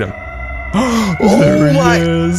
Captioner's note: German gasp